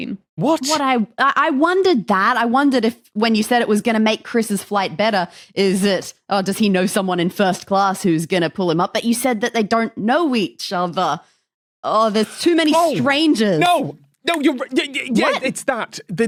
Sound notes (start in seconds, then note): 13.0 finger snap; 14.8 stammers